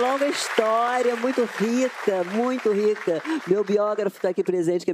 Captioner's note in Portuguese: aplausos